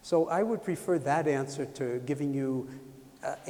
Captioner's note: none